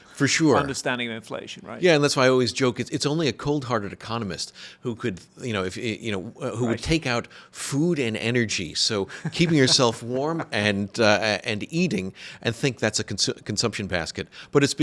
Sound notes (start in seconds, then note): 9.1 laughing